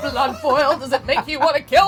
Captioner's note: laughing